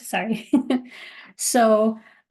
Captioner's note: laughing